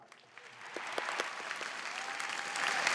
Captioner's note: applause